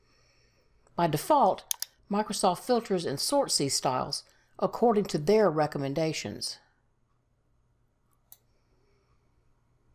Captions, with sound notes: By default, Microsoft filters (mouse clicks) and sorts these Styles according to their recommendations.